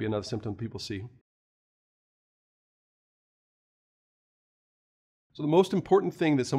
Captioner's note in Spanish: Sin audio